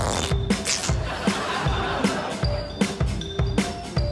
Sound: audience laughs

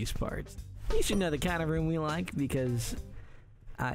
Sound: muffled bell ring

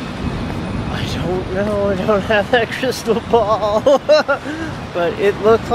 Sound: laughter

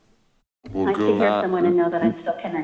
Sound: faintly speaking

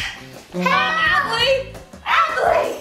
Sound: screaming

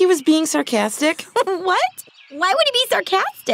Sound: chuckles

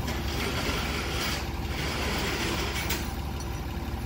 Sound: heavy dragging noises

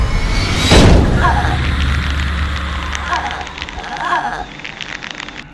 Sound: gasping

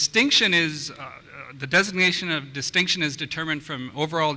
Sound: voiceover

